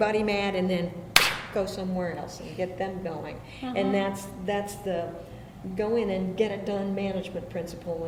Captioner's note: claps